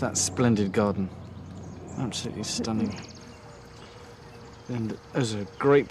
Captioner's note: laughing